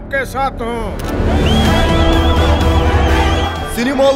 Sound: crowd whistles and cheers

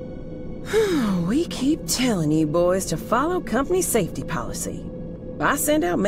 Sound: sigh

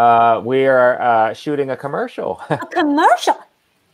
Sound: laughing

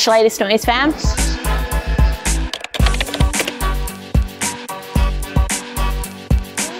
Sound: upbeat music; keyboard clatter

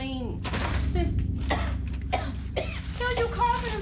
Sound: coughing

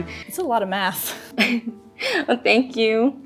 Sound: chuckling

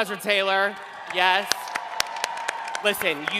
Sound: cheering

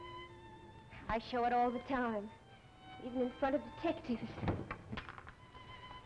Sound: sound of drawer closing

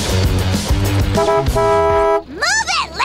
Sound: honking

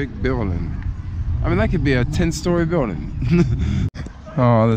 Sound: laughing

